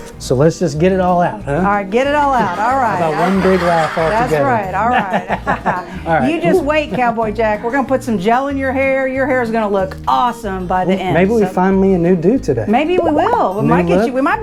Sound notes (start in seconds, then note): 2.4 children laughing; 5.5 both laugh